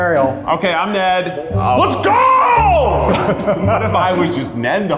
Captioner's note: laughing